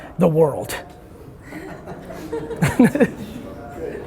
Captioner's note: laughter